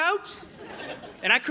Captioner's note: audience laughing